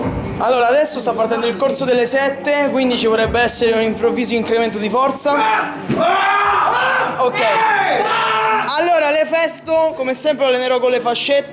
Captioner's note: random screams